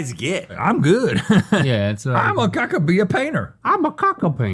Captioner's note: laughs